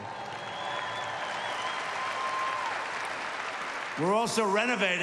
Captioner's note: applause